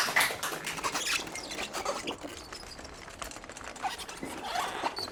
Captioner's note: squeaky wheel